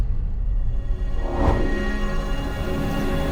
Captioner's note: air whooshing; ethereal music